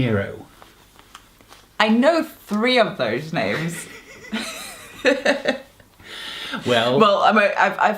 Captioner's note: laugh